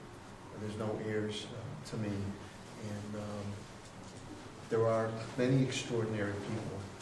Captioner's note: none